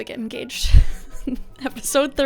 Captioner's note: laughs